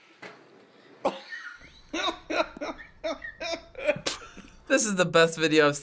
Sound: cameraman laughing

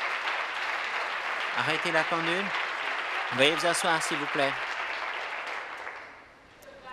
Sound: applause

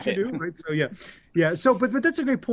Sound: chuckling

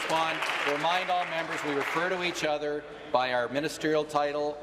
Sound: applause

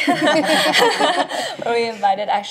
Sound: laughs

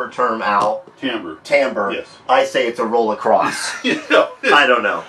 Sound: laughing

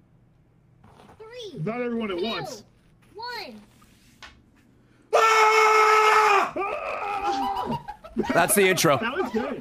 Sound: screams

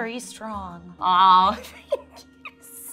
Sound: giggling

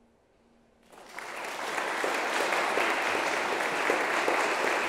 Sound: audience clapping

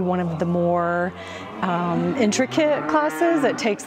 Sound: steers mooing

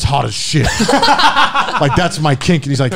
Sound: men laughing

